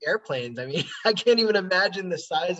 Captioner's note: laughing